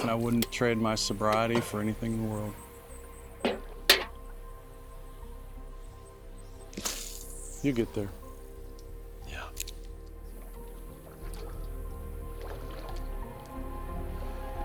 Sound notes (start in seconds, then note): 6.7 line whirring; 11.3 somber music